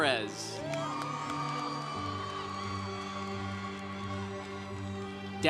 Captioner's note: congregation cheering